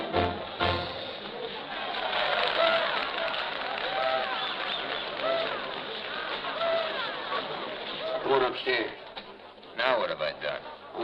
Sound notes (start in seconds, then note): 1.3 people applauding, cheering